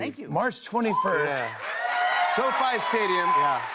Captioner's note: cheers and applause